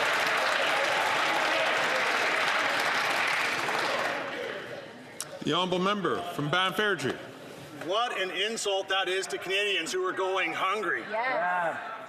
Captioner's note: some Applause